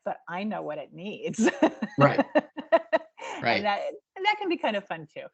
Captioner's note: laughing; laughing